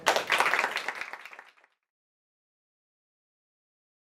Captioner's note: applause